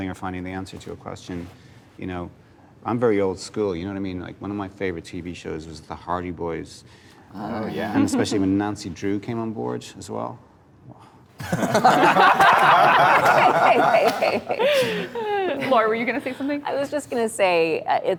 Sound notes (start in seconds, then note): 10.5 exhaling; 11.4 laughter